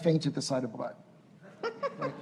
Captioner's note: laughter